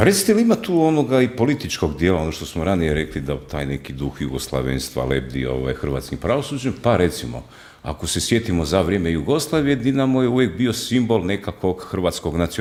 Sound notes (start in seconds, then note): none